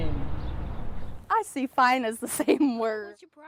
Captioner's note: laughing